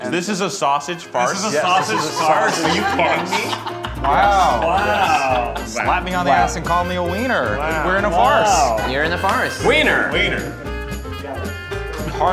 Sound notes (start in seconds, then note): 1.4 laughing